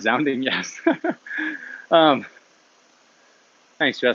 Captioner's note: laughs